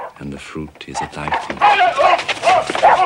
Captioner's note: exclaiming; monty continues barking